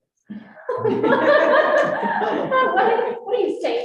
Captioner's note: all laughing